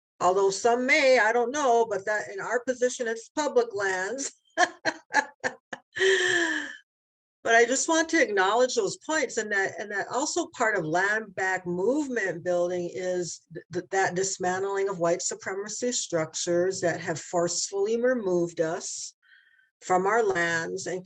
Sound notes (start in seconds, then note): 4.6 laughing